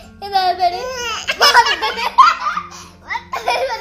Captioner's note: laughing